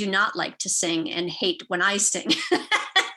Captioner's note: laughs